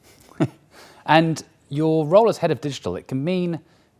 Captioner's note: laughs